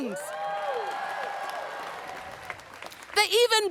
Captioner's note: audience cheers and applauds